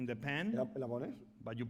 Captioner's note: speaking spanish